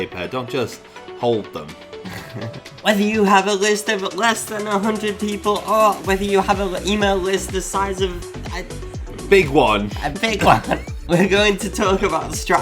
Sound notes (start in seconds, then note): 2.0 chuckles; 10.1 laughs